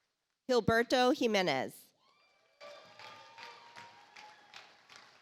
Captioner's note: audience applauds